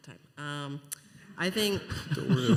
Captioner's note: laughter